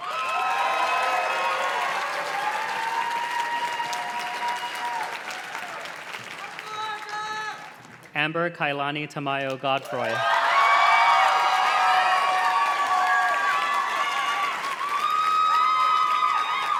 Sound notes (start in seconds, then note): 0.0 audience cheers and claps; 7.0 graduate cheers; 9.8 audience cheers and claps